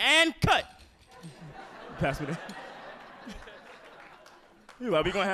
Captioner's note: audience laughing